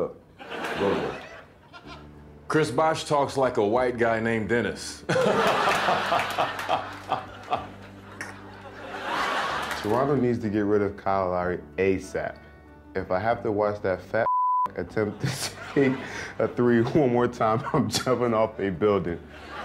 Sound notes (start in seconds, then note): 0.4 crowd laughing; 5.0 crowd laughing; 5.1 chris bosh laughing